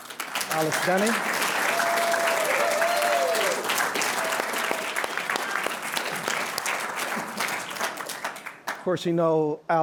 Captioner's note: applause, cheering